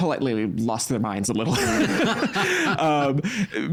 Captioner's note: both laughing